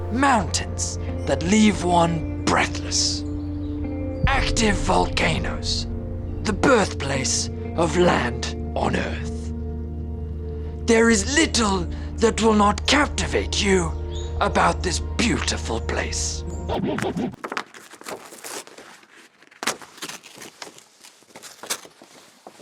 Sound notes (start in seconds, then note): 16.7 record scratch